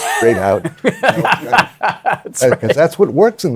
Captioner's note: laughs